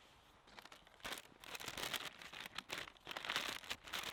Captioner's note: paper rustling